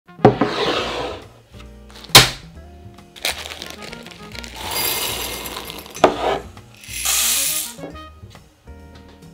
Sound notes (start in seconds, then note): 0.3 glass sliding; 2.8 light jazz music playing in background throughout video; 3.1 beans pouring; 3.2 bag dropping